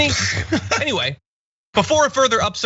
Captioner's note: laugh